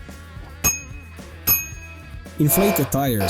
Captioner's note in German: Klingel